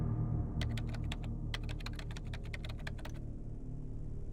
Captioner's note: keyboard clacking